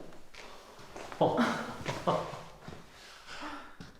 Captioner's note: laughing